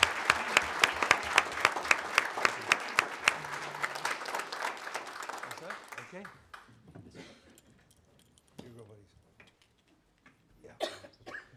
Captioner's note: applause